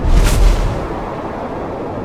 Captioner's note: intense wind blows; final lazer fires